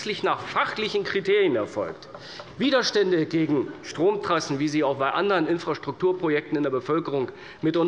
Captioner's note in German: none